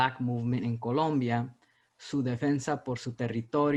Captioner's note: speaking spanish